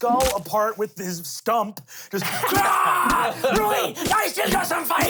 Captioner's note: yells